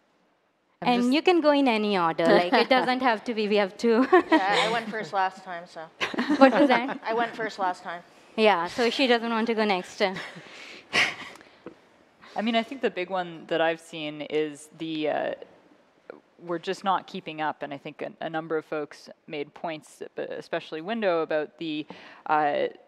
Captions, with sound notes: security threat landscape change over the years? You can go in any order. >> Yeah, I went first last time. >> (Laughter). >> I went first last time. >> Yeah, she doesn't want to go next. >> I mean I think the big one that I've seen, we are just not keeping up. And I think a number of folks made points, and